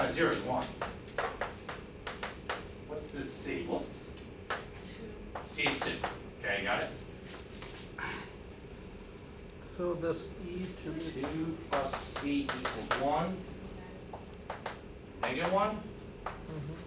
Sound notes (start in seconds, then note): 5.4 woman's Voice